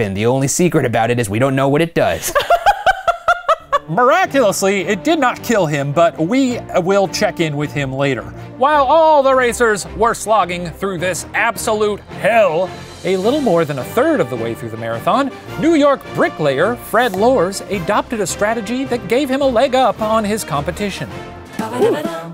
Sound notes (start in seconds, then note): 2.2 laughing